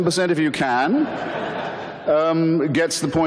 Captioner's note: audience laughter